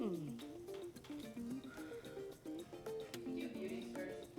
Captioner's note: light upbeat music; blowing